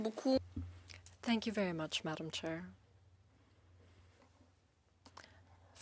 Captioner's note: speaking French